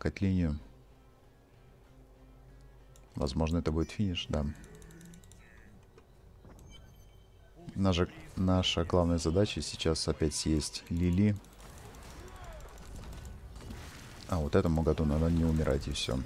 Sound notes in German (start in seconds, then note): 4.6 woo